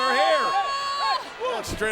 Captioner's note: Brie screaming